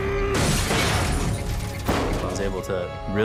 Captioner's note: glass shatters